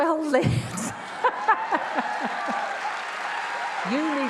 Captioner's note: all laughs; attendees applauding